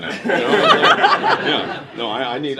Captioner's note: laughter